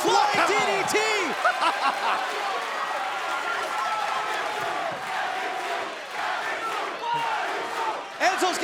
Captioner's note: crowd cheering